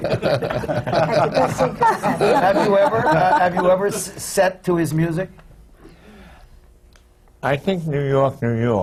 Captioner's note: laughter